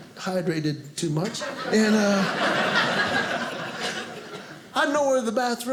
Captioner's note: audience laughing